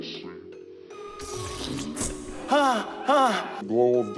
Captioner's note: slow motion talking